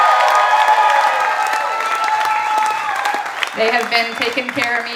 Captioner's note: audience applauding and cheering